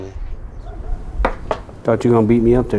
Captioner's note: knocking